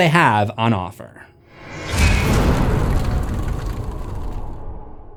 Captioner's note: impact